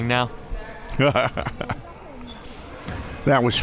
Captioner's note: laughing